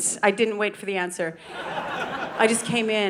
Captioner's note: audience laughing